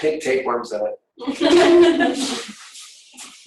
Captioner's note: laughing